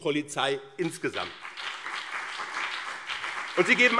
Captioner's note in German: Beifall BÜNDNIS 90/DIE GRÜNEN und CDU